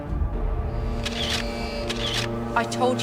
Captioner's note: shutter clicking